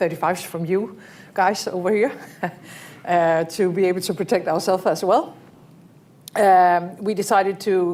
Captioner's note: laughs